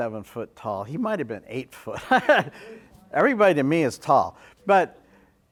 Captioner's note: laugh